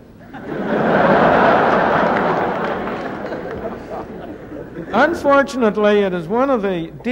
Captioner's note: laughter